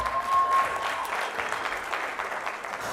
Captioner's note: cheers; applause